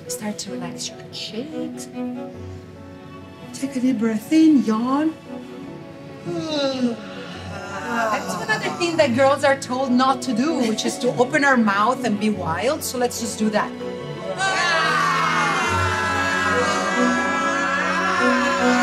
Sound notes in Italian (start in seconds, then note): 6.2 le donne sbadigliano; 14.3 le donne urlano